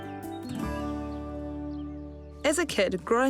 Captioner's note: birds twitter